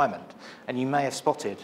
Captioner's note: none